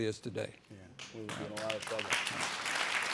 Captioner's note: audience applauding